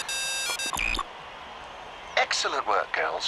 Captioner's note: phone ringing